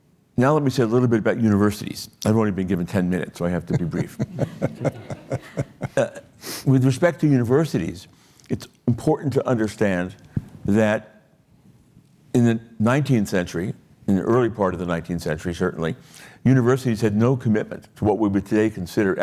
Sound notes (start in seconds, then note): 3.6 laughter